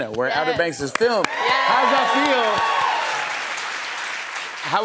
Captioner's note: cheers and applause